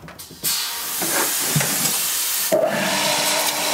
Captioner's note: hiss